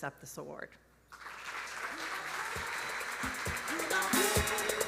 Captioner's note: audience applauding; upbeat music